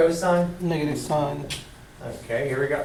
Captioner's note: voiceover